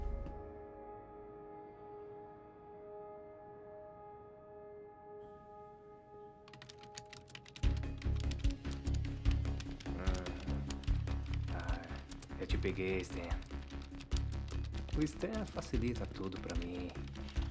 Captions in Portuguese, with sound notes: [ TOQUES NO TECLADO ] -EU TE PEGUEI, STAN. [ BALBUCIANDO ]